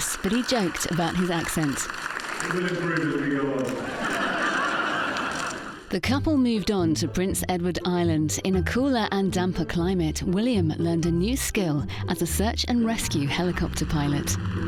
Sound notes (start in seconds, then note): 2.4 crowd laughs